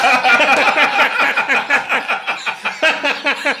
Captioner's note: all laughing